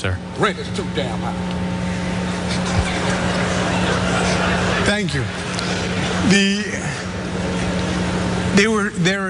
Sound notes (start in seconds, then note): 2.3 laugh